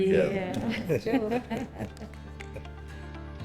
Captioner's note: laughing